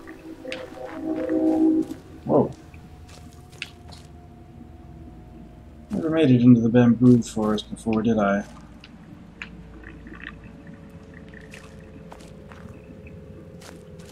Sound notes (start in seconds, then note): 3.0 vaguely unsettling wind noises throughout